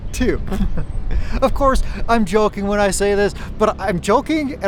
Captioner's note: laughing